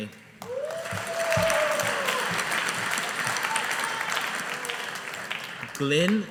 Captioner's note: audience applauding